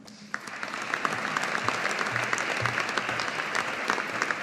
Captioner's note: audience applauding